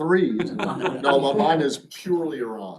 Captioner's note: laughter